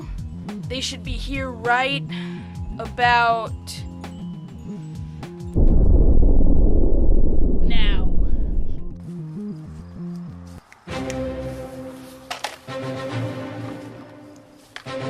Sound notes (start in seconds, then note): 5.5 boom